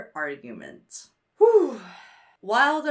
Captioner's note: sighs